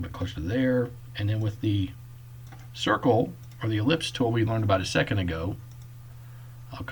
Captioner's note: click